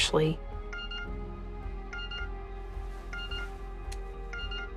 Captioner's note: cellphone ringing